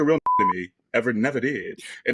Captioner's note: beep